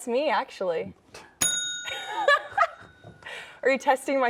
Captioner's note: bell rings